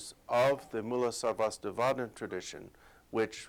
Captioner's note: non-english speech